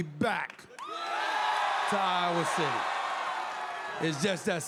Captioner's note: crowd cheers